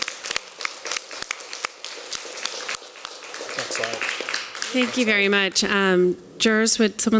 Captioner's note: applause